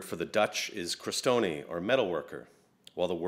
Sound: speaks another language

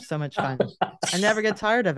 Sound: laughs

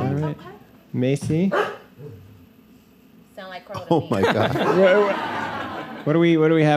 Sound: Macy barks

